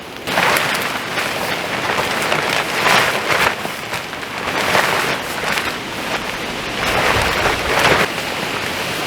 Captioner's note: tarp rustling